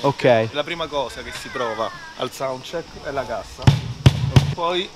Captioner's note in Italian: bong bong